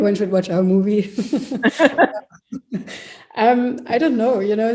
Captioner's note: laughs